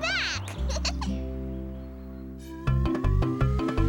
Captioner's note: tyler laughs